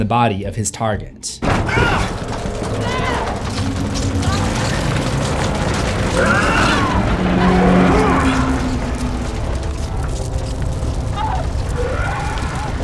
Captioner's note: screams